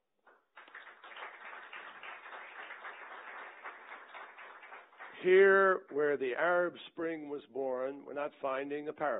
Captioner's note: applause